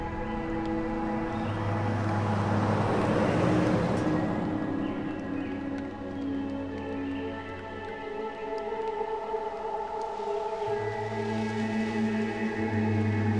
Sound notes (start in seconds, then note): 2.1 car engine revving; 5.1 birds chirping; 5.1 intense upbeat music